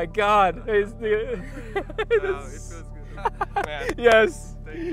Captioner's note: laughs